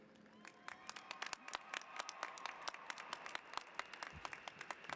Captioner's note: applause